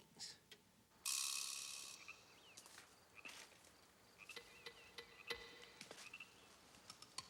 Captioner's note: frogs croaking; tense music